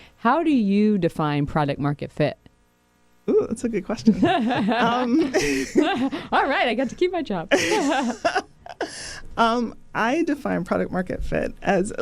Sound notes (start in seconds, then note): 4.0 everyone laughing; 7.5 laughter